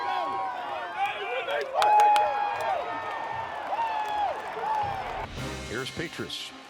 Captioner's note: loud cheering from crowd